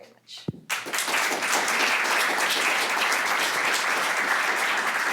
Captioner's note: applause